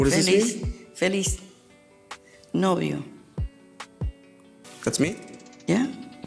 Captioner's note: speaking Spanish